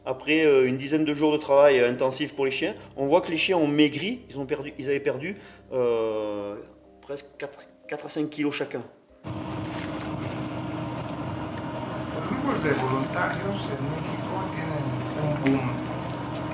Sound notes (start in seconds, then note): 9.2 heavy machinery sound